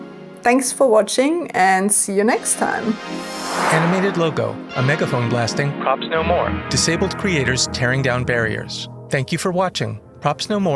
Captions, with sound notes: Thanks for watching, and see you next time. [whoosh] [peaceful ambient music]